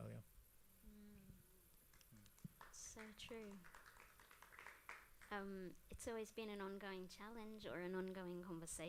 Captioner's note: applause